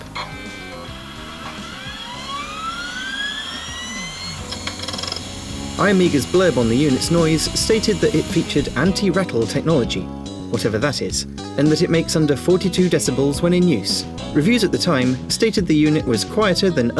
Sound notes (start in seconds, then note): 0.2 buzz; 1.7 whirr